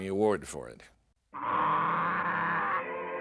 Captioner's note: growling